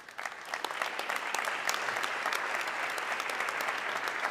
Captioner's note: audience clapping